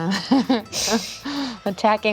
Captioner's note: laughing